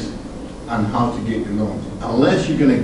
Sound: none

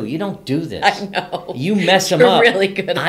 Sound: laughs

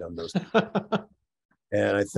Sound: chuckles

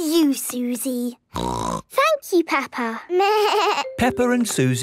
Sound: snorting; bleating

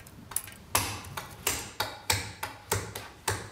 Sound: gently hammering noises

